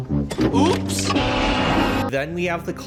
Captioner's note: Price is Right horn